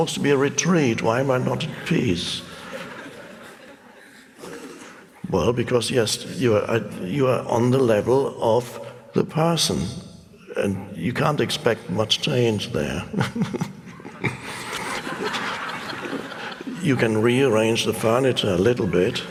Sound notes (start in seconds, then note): 12.9 Eckhart chuckles; 15.3 audience laughs